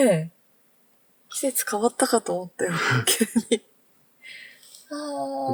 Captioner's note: laughs